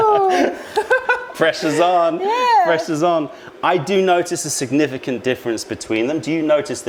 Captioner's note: laughter